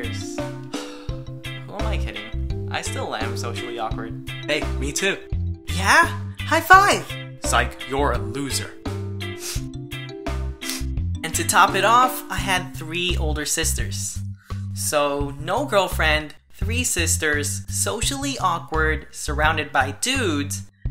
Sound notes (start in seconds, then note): 0.7 sigh; 9.3 sniffles